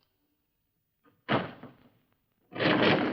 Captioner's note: door closes